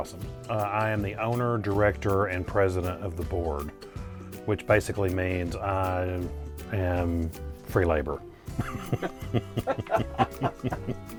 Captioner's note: laughs